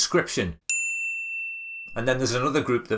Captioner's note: ping